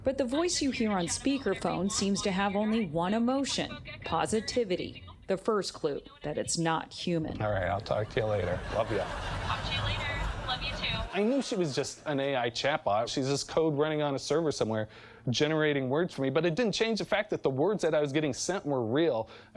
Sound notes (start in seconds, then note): 7.8 studio audience laughs